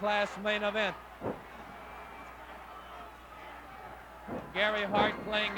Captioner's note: crowd cheering